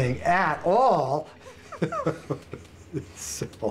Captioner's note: laughs